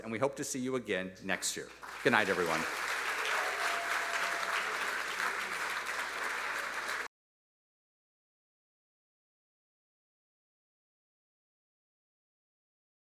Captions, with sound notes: and we hope to see you again next year. Goodnight, everyone. (audience applauding) (audience cheering)